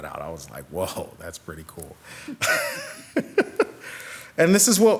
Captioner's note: laughs